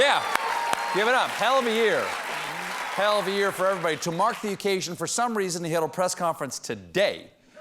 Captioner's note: applause